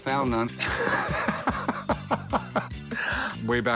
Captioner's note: laughter